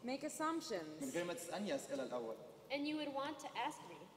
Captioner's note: speaking native language